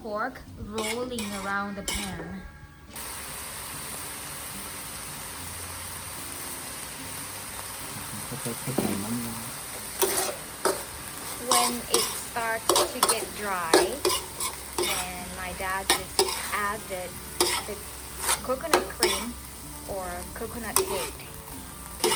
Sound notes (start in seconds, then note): 8.4 dad speak Thai